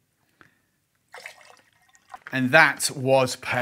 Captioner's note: pouring liquid